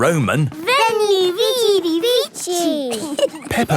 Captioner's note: laughing